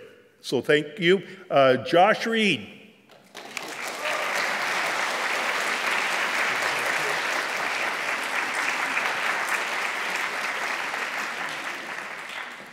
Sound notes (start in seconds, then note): 3.1 applause